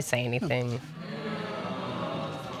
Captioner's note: audience groans